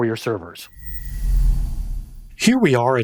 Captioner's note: air whooshes